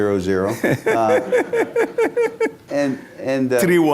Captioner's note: laughter